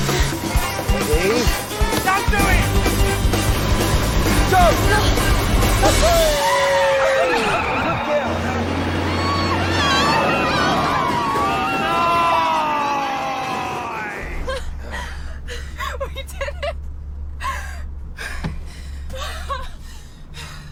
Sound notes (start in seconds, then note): 7.0 Alice laughing; 14.5 laughing